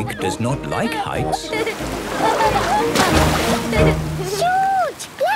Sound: laughing

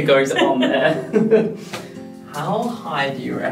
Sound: laughs

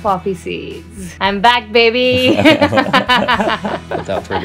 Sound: laughter

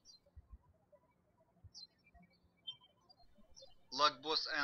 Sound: birds chirping

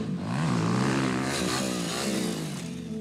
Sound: engine revs

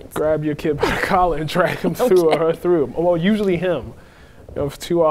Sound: laughing

